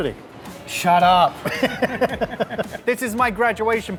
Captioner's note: laughter